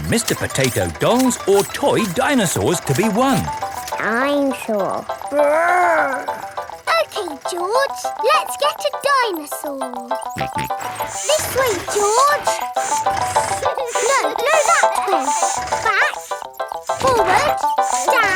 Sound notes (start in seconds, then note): 10.3 george snorts